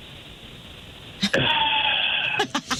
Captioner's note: laughing